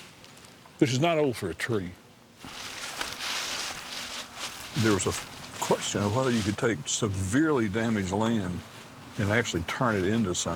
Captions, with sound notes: which is not old for a tree. (leaves shuffling) There was a question of whether you could take severely damaged land and actually turn it into something.